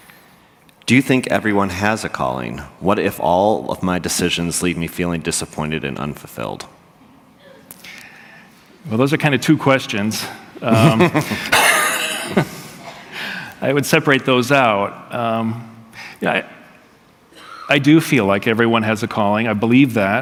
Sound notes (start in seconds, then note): 10.7 laughter